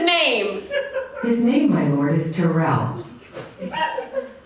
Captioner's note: virtual assistant voice